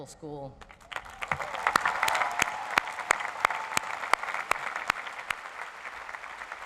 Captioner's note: crowd applauds